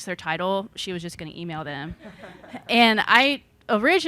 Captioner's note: audience laughing